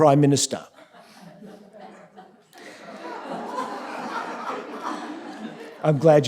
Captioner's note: laughter